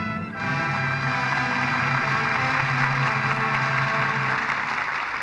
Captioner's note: applause